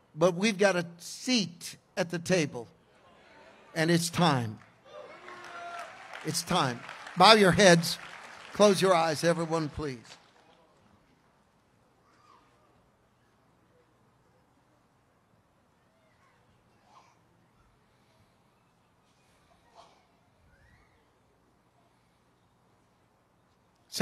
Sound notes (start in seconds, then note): 4.8 congregation cheers